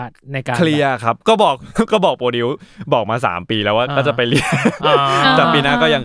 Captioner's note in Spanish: Risas